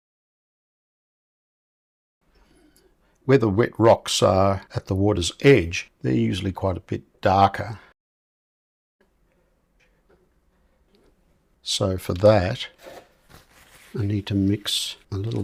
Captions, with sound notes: Where the wet rocks are at the water's edge, they're usually quite a bit darker. [silence] So for that, I need to mix a little